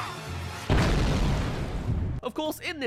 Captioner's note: smash